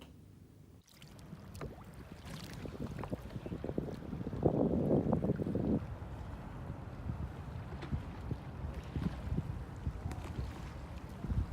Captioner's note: water and wind